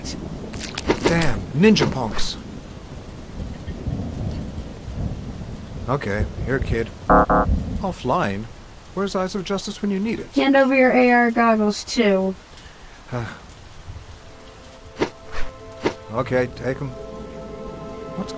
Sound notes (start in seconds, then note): 7.1 error sound from augmented reality display